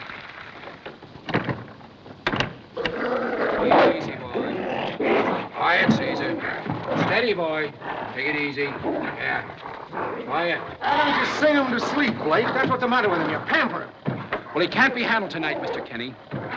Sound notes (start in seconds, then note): 2.7 roaring